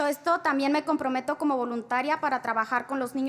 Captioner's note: spanish